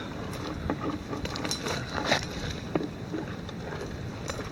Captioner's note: bucket rattling